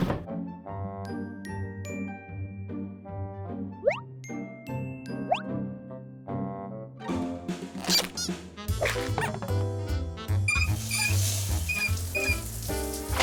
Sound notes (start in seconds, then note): 8.7 toys squeaking; 10.4 knobs squeaking